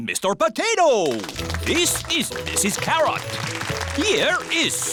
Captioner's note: applause